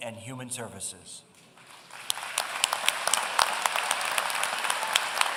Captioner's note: applause